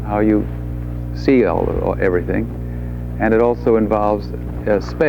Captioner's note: none